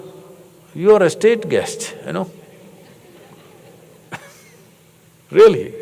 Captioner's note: laughter